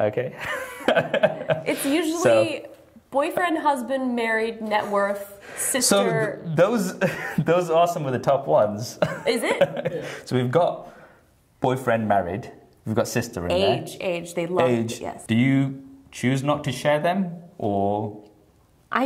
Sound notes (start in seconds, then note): 0.4 laughs; 9.0 laughter